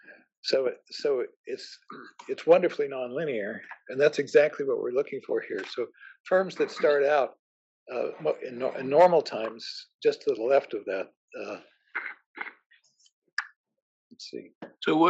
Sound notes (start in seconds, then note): 1.3 cough